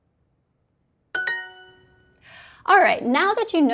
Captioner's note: dings